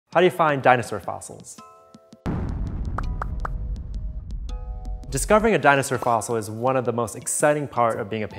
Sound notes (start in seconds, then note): 2.2 boom